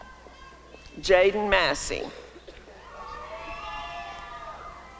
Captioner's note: applause and cheering